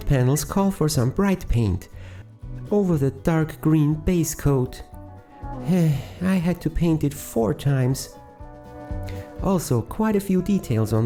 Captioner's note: sigh